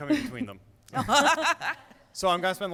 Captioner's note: laughter